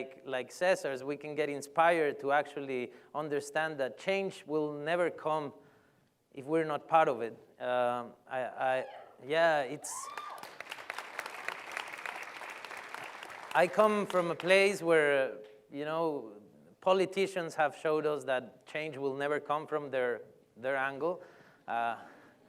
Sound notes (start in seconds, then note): 9.8 cheer; 10.0 applause